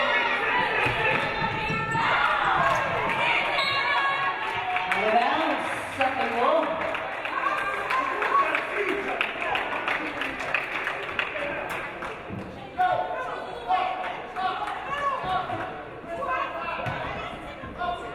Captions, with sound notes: (referee blows whistle) Out of bounds, Suffolk ball. (audience applauding)